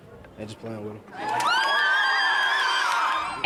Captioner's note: cheers and applause